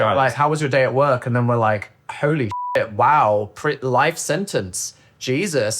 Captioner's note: beep